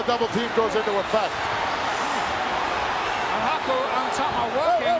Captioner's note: audience cheering